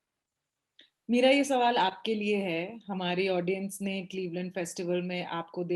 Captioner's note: speaks foreign language